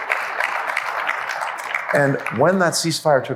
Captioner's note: applause